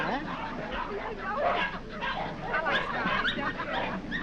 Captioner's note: dogs barking